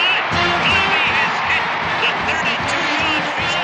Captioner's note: crowd roaring